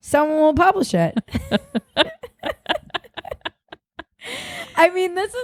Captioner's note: both laughing